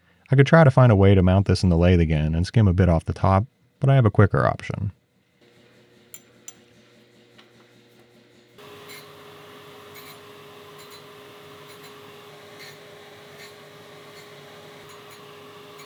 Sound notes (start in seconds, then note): 8.9 tool humming